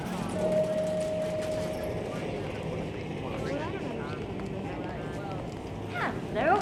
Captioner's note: people chattering indistinctly